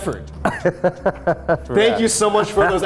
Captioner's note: laughing